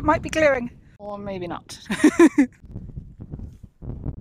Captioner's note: chuckles